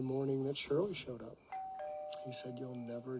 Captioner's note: doorbell ring